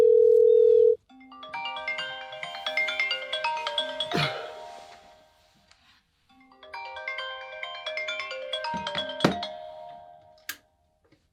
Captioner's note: phone rings